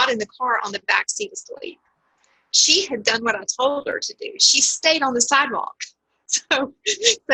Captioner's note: laughs